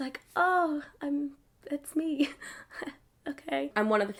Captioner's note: laughs